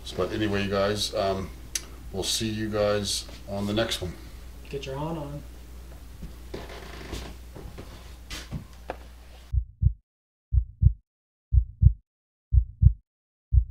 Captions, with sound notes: But anyway, guys, we'll see you guys. On the next one. - Get your horn on. (heart beating)